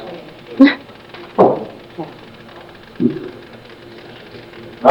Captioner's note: chuckles